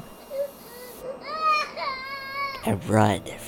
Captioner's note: baby crying